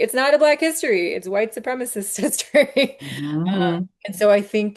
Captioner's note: laughs